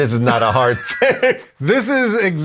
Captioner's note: laughs